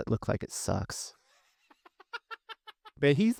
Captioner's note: laughing